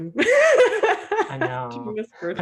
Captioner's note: laughs